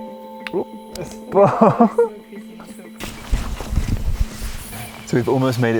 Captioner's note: gasps and laughs